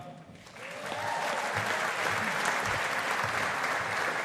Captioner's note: audience applauding